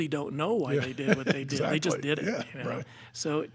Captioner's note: laughing